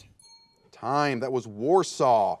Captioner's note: ding